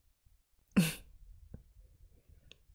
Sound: chuckles

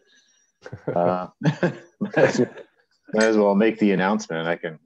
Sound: laughing

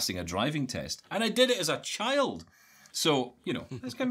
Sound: laughing

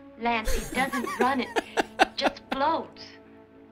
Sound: laughs

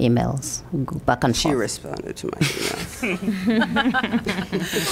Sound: laughter

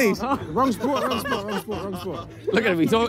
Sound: players laugh

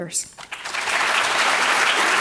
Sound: audience clapping

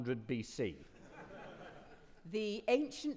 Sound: audience laughing

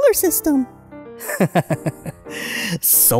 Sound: laughs

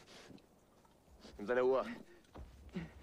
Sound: men speaking in german

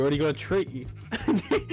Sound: laughing

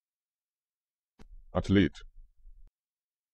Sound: fast Pronunciation

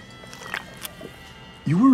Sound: slurping water

